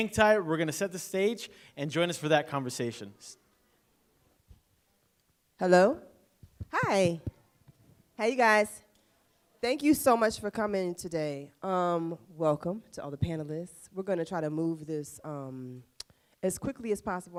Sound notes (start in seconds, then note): none